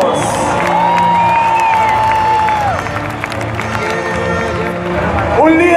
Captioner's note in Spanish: aplausos